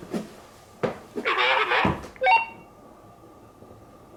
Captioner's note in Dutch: geluid van walkie-talkie